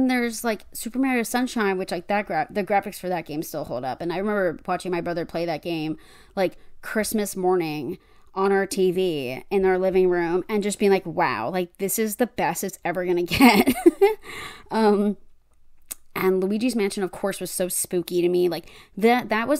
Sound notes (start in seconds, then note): 14.5 laughs